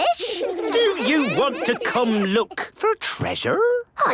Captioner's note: children giggling